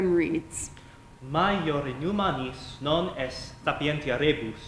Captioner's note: speaking latin